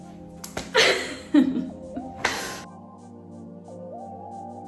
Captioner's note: laughing; soft electronic music